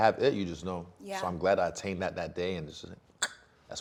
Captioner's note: clicking tongue